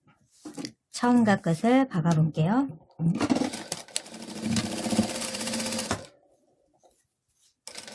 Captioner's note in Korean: 미싱소리